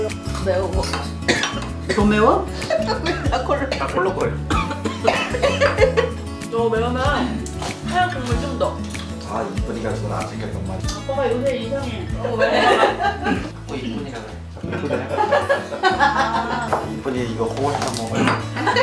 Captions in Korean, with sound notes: 매워... [콜록 콜록] 넘 매워? [콜록콜록 콜록콜록 콜록콜록] - 다 콜록 - 다 콜록거려 너무 매우면 하얀 국물 좀 넣어! 아이 이쁜이가 그걸 안 챙겼단 말이지 아빠가 요새 이상해... 자꾸 이쁜이라 그래 자꾸 이쁜이라 해요? 이쁜이 이거 하나 먹어봐요